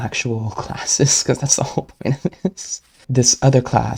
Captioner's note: laughing